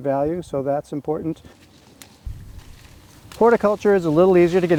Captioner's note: plants rustling